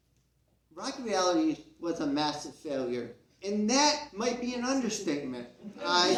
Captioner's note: CROWD laughs